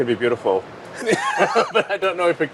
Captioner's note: laughter